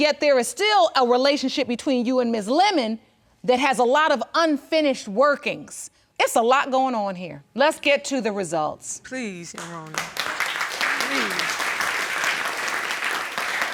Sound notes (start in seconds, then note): 9.6 audience applauding